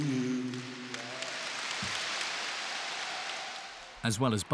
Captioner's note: audience applauds